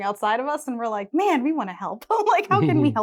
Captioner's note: laughs